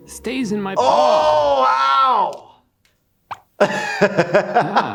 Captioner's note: grunts; laughs